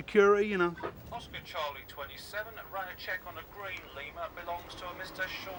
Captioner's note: radio